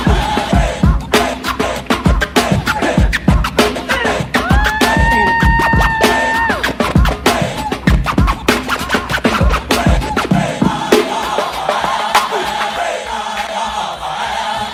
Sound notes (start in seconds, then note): 4.4 person cheering